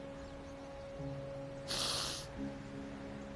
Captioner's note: sniffling